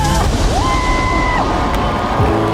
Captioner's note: rue cheers